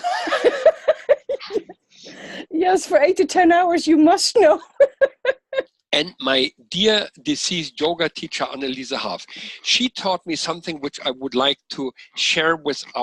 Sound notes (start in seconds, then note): 0.0 laughter